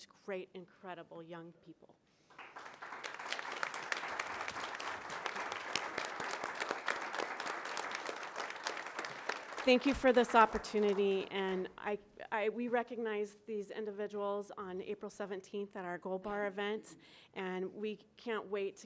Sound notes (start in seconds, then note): 10.0 applause